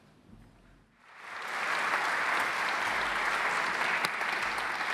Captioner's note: audience applauding